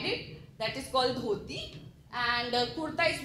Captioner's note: speaking foreign language